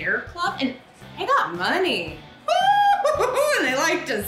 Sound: laughs

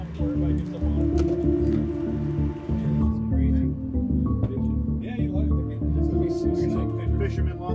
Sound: crowd chattering; soft music

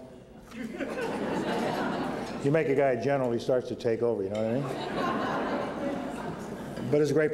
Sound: laughter; laughter

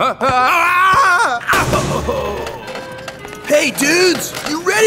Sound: screams

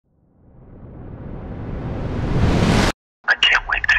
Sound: dramatic whoosh

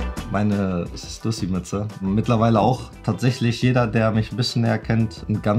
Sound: speaking foreign language

